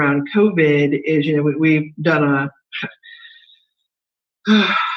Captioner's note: sighs